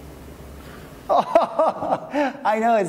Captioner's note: laughs